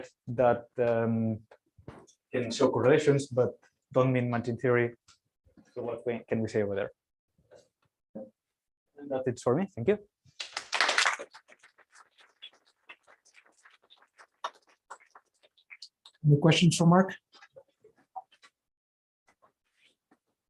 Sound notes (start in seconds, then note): 10.4 applause